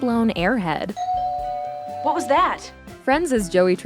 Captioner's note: doorbell rings